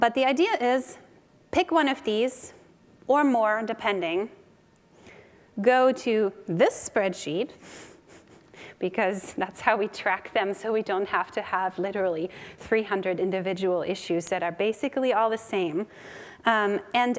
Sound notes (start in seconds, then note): 8.0 chuckles